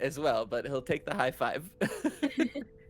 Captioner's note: laughs